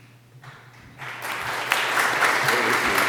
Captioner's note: applause